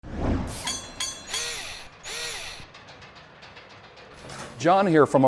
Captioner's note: mechanical SFX